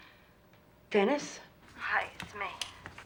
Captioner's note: on phone